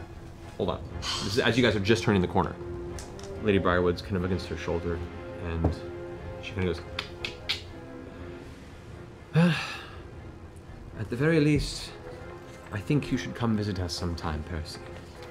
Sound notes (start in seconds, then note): 7.0 clicks tongue; 9.2 sighs